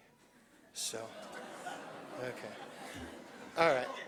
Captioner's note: laughter